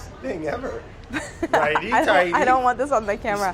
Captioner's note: laughs